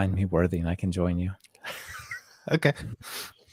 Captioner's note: laugh